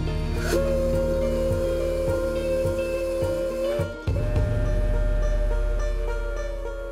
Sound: train whistle

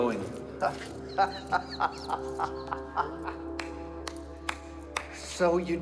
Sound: laughing; clapping

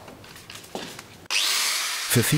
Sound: machine noises

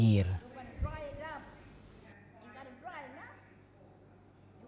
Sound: women chatting

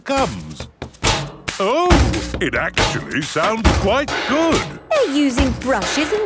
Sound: rhythmic clanging

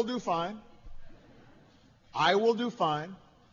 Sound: laughter

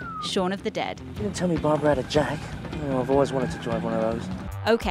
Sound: whistles

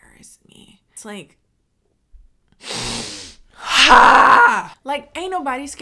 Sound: inhales ferociously

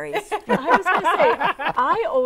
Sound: laughing

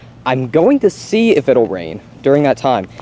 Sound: none

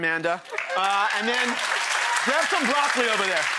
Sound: audience cheers

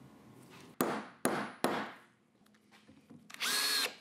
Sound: hammer tapping; screwdriver buzzing

